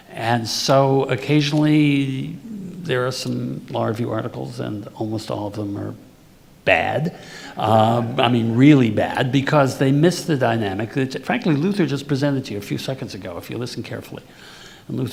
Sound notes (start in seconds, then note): 8.2 audience laughing